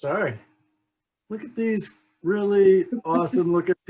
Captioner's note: laughs